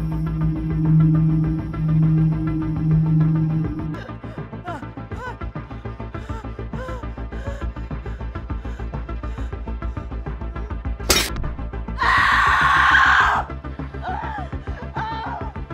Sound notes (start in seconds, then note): 11.3 Sandra screaming; 11.3 metal creaking